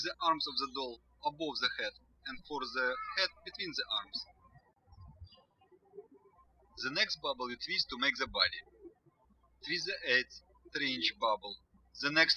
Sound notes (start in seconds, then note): 5.5 birds chirping